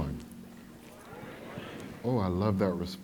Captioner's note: crowd